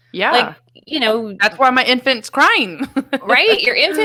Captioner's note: laughs